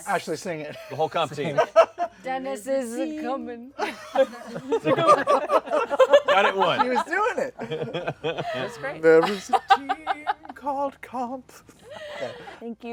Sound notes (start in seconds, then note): 5.4 laughter